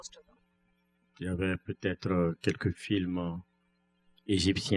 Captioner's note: speaking french